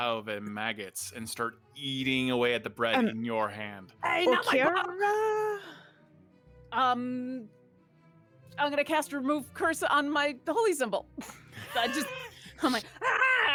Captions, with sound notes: erupt out of a maggots and start eating away at the bread in your hand. - Oh Karer - I'm going to cast, remove curse on my holy symbol.(groans)